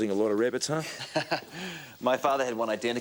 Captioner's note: Graham chuckles